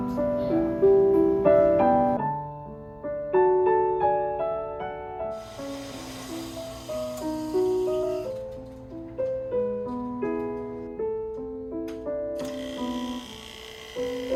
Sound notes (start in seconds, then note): 1.8 gentle piano music; 5.4 machine buzzing; 6.1 gentle piano music